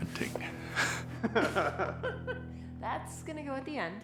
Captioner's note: laughter